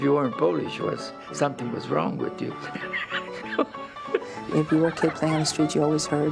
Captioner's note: laughs